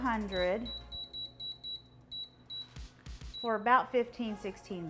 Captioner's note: air fryer beeping